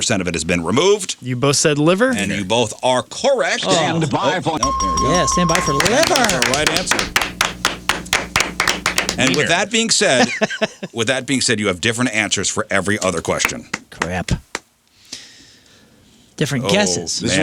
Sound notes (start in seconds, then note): 9.3 clapping; 10.2 laughs